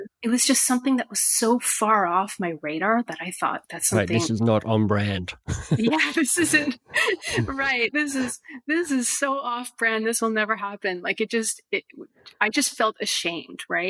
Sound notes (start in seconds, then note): 5.2 laughs